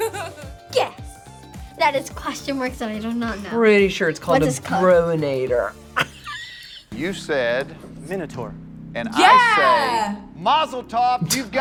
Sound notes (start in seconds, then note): 5.9 laughs